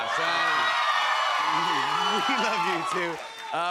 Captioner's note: cheers and applause